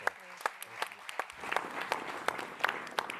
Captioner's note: applause